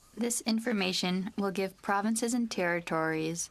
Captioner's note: speaking French